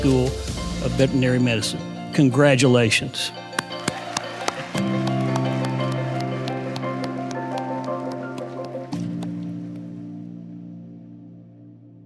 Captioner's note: applause underneath